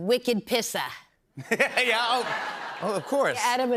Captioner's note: laughs